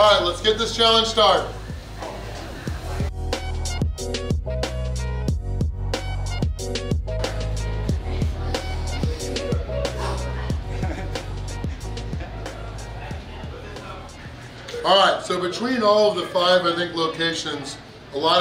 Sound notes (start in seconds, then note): 2.7 jazzy music; 9.9 deep breath